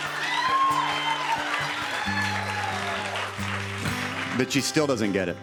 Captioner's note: cheers and applause